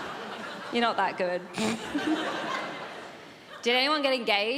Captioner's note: giggles